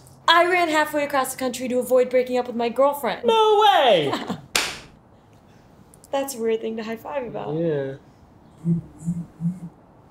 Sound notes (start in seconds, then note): 8.6 phone vibrating